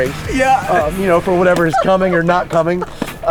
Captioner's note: laughs